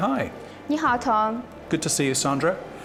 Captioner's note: speaks in foreign language